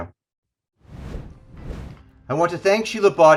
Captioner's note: air whooshing